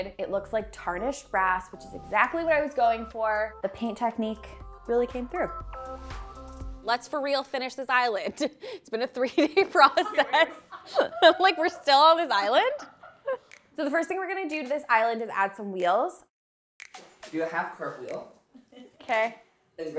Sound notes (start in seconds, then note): 9.3 people laughing